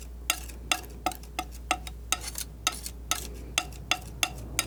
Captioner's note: scratching